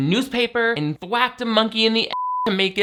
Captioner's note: beep